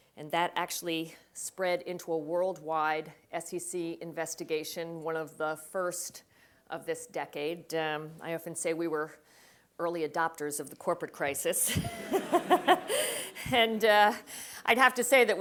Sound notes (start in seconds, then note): 11.6 laugh